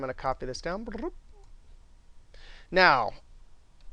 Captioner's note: rolls tongue